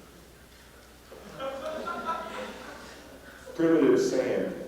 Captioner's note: laughter